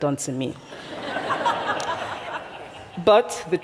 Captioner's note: laughter